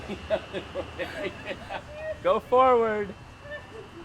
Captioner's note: laughter